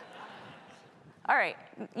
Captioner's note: audience laughs